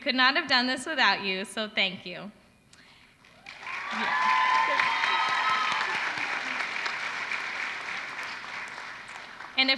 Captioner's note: applause